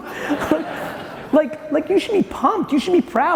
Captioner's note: audience chuckling